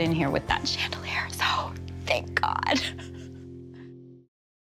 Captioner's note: chuckles